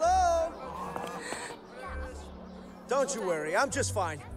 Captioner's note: she gasps